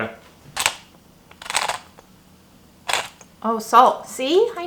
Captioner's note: pepper grinding